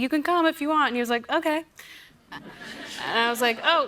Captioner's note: laughter